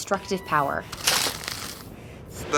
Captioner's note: rattling